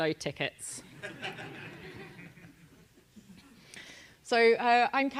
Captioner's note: laugh